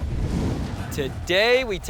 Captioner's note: flame roaring